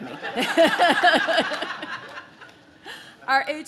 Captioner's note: audience laughs; laughs